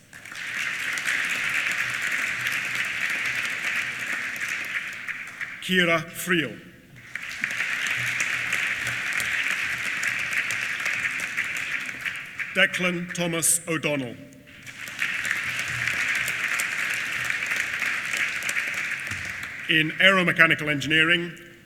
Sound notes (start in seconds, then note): 0.1 applause; 6.8 applause; 14.4 applause